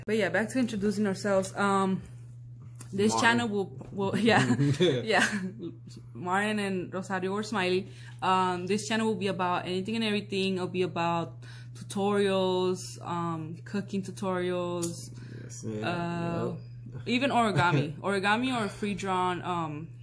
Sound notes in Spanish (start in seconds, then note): 4.2 Risas